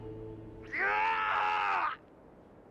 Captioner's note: screaming